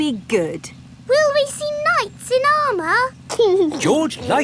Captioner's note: giggling